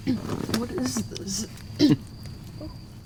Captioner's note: carraspeando